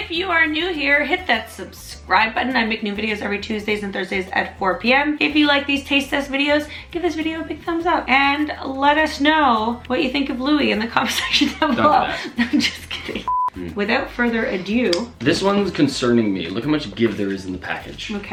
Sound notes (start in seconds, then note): 11.0 laughs; 13.2 beep